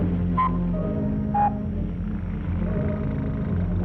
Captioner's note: whistle tooting